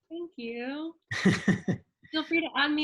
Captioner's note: laughs